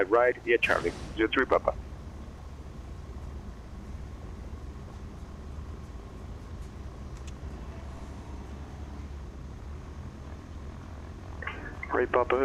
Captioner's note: wheels rolling